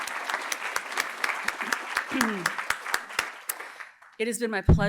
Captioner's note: applause